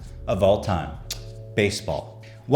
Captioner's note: kiss noise